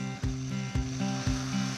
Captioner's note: blender whirs